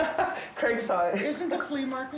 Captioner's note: laughs